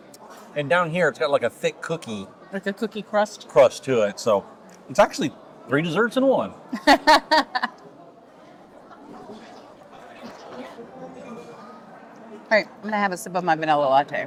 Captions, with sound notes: And down here, it's got like a thick cookie. Like a cookie crust? Crust to it, so it's actually three desserts in one. (laughs) All right, I'm gonna have a sip of my vanilla latte.